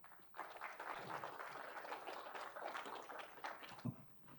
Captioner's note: audience applauding